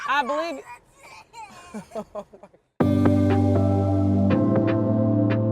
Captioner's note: crying in background